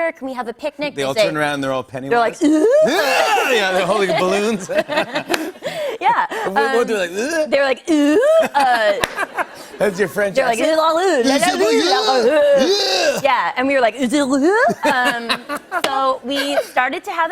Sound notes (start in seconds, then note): 4.5 laughter; 8.1 laughter; 13.8 imitates French